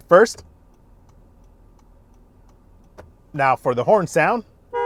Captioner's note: indicator clicking